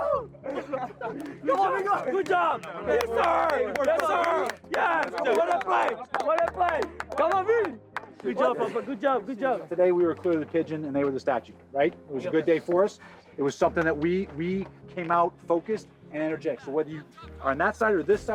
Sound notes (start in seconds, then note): 2.8 cheering and laughter